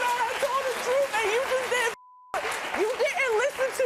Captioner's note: beep